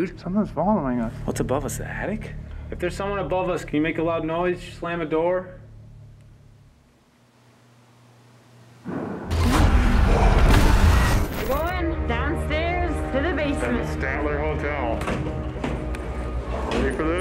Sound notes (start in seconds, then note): 8.8 bang; 9.5 gasping